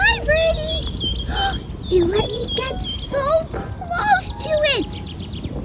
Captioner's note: gasp